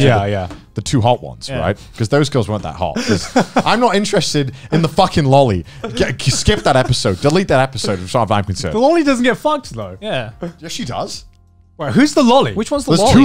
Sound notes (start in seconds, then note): 3.0 laughs